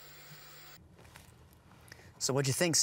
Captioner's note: static crackles